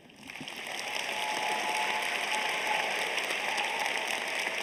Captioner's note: audience applauding